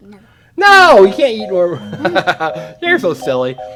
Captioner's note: laughing